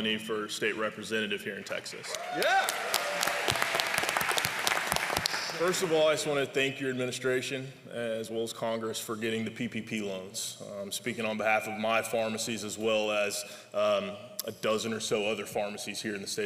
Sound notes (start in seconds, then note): 2.1 applause